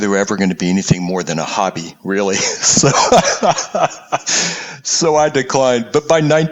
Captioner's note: laugh